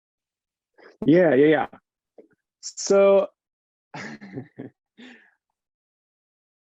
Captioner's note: chuckles